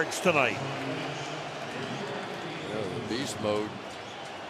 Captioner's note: pa announcement